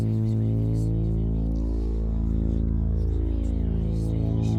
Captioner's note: whispering continues